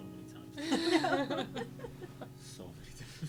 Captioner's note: laughing